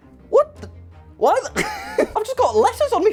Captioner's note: laughs